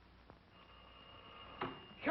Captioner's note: phone ringing